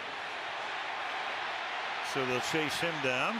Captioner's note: crowd cheering